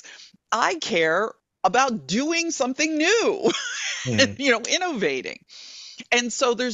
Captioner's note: laughing